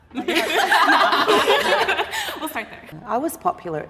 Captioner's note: all laughing